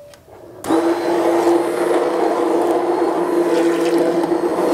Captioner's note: blender whirring